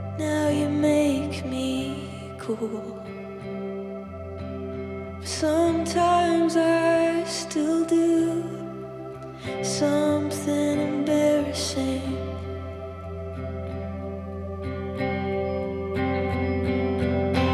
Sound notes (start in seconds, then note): none